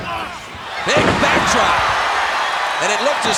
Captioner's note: audience cheering